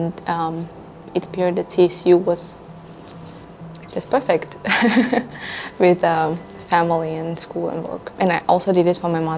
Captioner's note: laugh